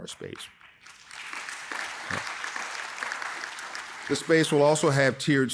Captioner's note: audience applauding